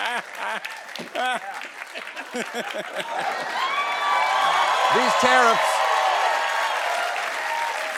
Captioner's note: cheering; laughter and cheering